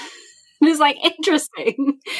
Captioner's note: laughing